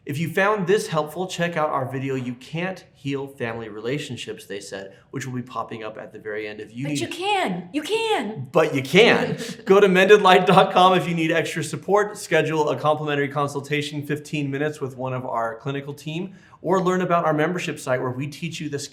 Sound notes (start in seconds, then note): 8.8 hosts laugh